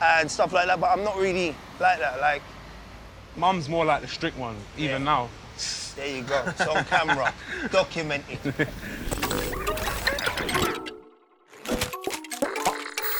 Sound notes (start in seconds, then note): 6.2 laughs; 10.4 gentle music